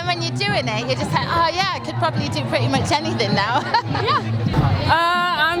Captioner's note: laughs